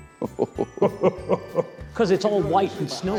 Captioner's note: laughing